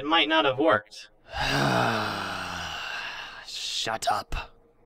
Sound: sighs

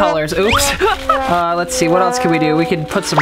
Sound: laughs

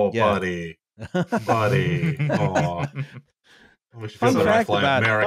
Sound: laughter from all

